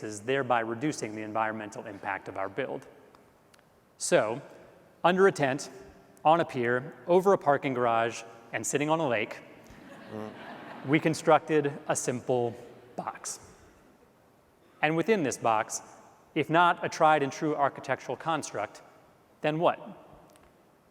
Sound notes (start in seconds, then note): 9.8 audience laughs